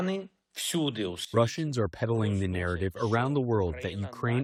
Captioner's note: through translator